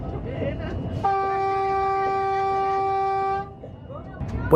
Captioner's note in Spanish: claxón del tren